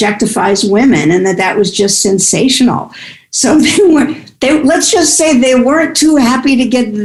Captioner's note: guffaw